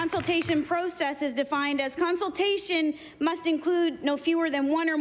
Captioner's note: applause